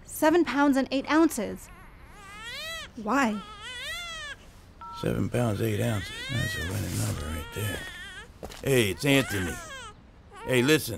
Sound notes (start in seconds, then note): none